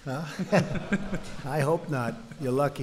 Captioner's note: laughter